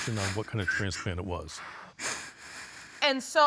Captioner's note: sobbing